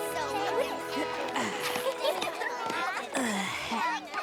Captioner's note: applejack grunting